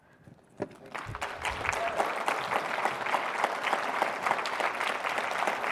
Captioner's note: audience applauding